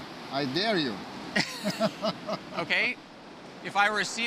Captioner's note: chuckling